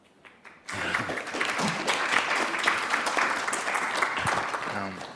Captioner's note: audience applauds